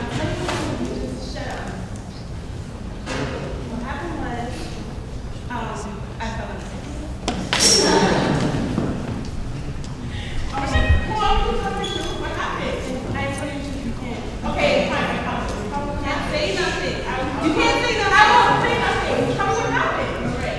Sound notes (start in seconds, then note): 7.8 audience laughs